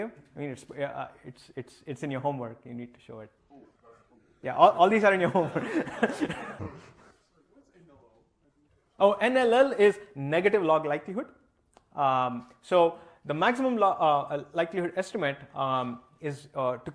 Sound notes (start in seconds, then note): 5.2 laughter